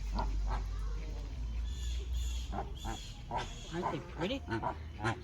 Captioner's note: birds crawling